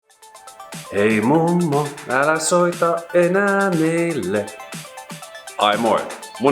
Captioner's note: parody